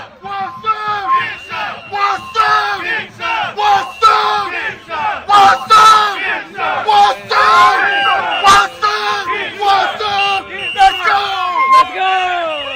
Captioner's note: chanting